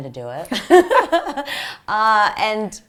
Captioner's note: laugh